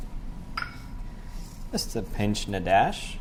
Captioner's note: glass clinks